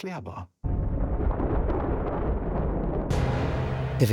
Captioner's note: sounds of thunder